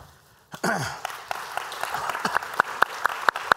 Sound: applause

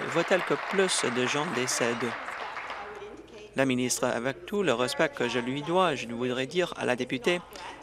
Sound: applause

